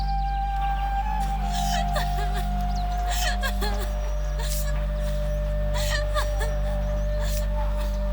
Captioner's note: laughter